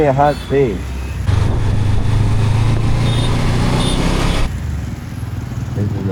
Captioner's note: engine thrum